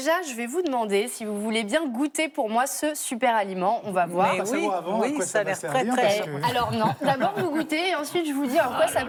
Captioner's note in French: rires